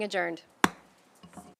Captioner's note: gavel hitting dais